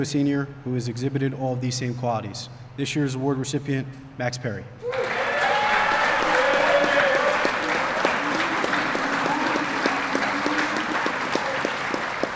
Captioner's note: applause